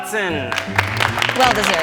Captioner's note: students clapping